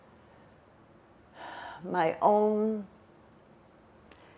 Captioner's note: sighing